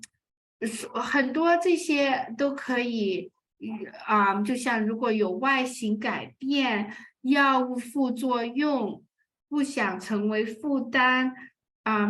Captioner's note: speaking chinese